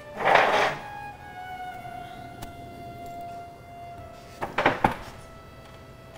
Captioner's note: chair scraping across floor